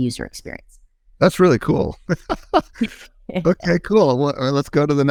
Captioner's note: laughs